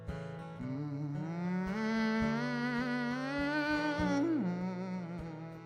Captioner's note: hums with guitar